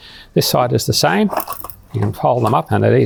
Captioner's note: tabletop rattling